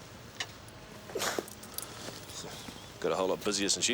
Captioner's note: Dave panting